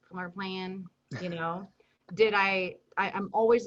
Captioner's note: chuckles